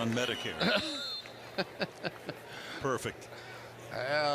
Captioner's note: laughs